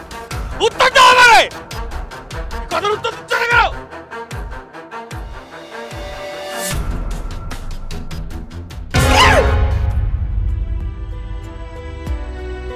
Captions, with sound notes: Answer me Why aren't you answering me ? (screams in agony) Title opening - Once